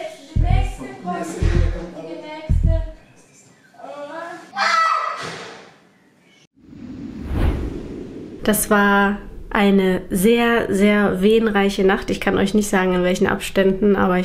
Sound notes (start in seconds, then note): 4.5 screaming